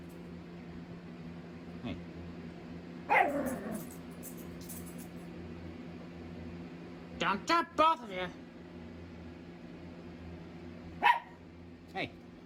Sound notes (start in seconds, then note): 3.0 Ella growls and barks; 11.0 Ella barks